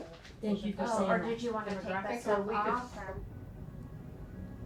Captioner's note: people chattering